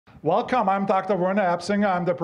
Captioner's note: with Austrian accent